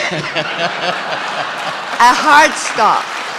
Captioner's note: laughing